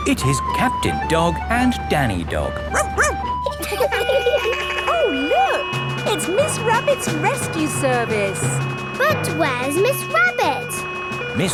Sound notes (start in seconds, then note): 2.7 barks; 2.7 laughing; 3.8 sirens sounding